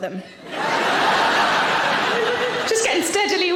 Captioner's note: audience laughing